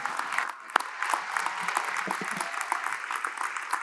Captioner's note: applause